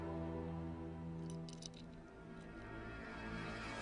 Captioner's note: foreign language; soft clinking; suspenseful music